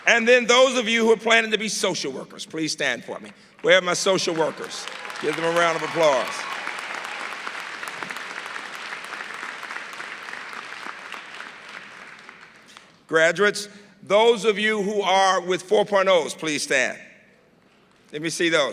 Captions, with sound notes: AND THEN THOSE OF YOU WHO ARE PLANNING TO BE SOCIAL WORKERS, PLEASE STAND FOR ME. WHERE ARE MY SOCIAL WORKERS? GIVE THEM A ROUND OF APPLAUSE. [APPLAUSE] GRADUATES, THOSE OF YOU WHO ARE WITH 4.0 PLEASE STAND. LET ME SEE THOSE.